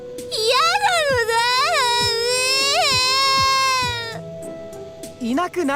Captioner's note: more sobs